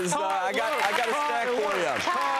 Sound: applauding

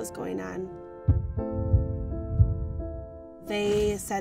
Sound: tapping on the mic

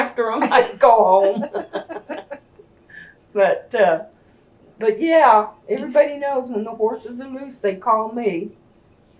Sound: laughter

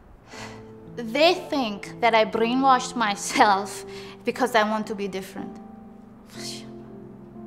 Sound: ironic sigh

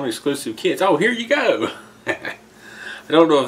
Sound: laughter

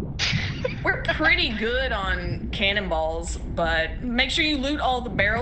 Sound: laugh

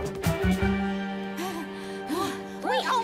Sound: both panting

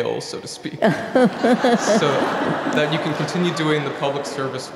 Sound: laugh

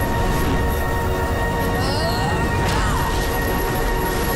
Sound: grunting

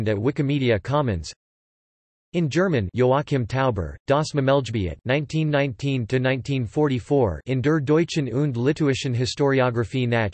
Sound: in German

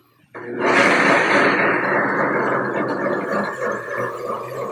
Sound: blender roaring

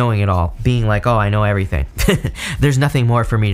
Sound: laughs

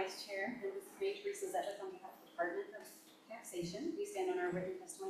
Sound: faintly speaking

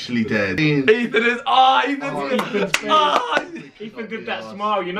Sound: clapping

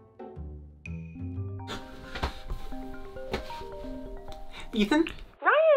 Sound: incoming phone call ringing

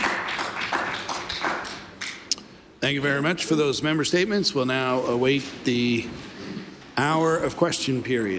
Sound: applause

